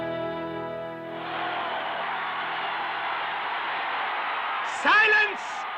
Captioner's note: light orchestral music; crowd cheering